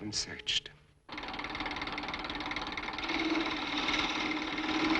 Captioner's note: machine whirs